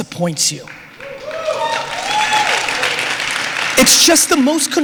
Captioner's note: applause